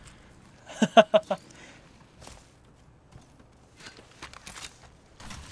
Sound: laughs

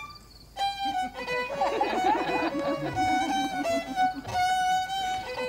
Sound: crowd laughter; fiddle Music

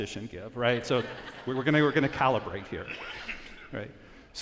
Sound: audience laughs

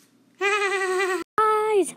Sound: goofy Ahh Type Laugh

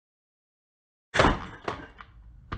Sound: thud

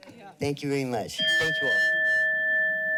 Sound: bell dings

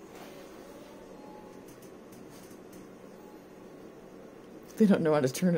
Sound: motion senor going off in background

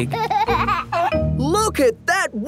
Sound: giggling

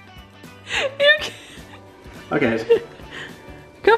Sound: laughs

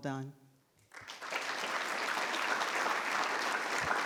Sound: all clapping

